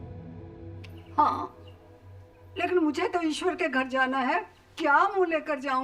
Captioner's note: woman speaking foreign language